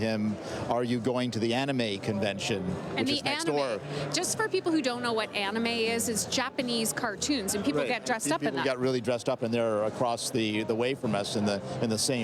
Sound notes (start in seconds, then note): none